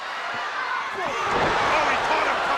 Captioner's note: 2 Cold thuds